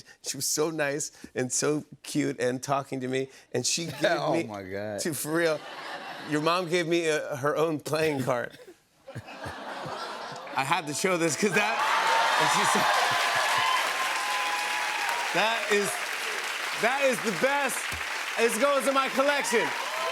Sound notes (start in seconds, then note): 9.0 laughter; 11.3 cheers and applause